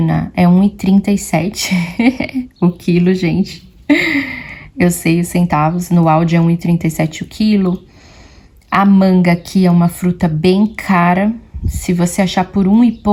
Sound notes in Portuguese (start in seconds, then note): 3.9 risadas; 3.9 suspirando